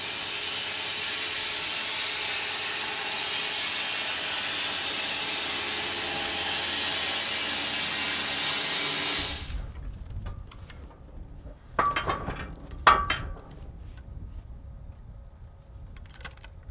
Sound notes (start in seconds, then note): 11.7 metal clanging